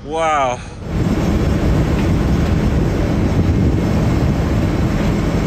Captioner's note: aeroplane engine roaring